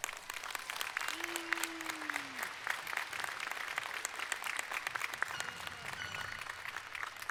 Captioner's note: applause